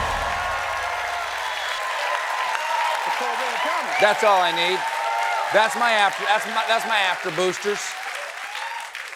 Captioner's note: cheers and applause